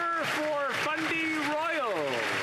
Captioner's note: applause